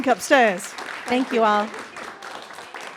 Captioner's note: audience applauding